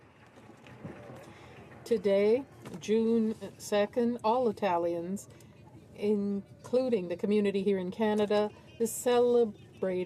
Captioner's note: applause